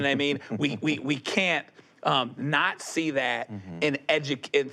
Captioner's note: chuckles